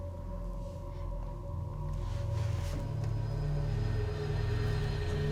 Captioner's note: ghostly voices